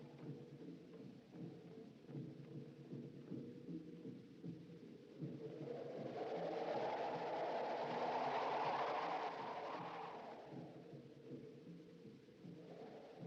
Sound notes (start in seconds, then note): 5.7 wind Gusting